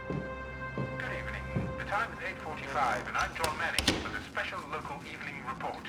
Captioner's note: radio broadcast